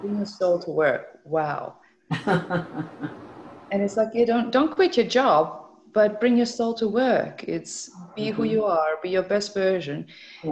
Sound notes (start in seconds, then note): 2.1 laughs